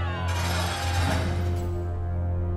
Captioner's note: crowd hollering; dramatic music; Golden Fox whines; gate creaking